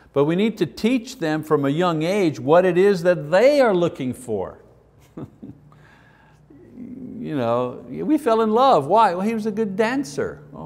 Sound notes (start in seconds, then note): 5.0 chuckles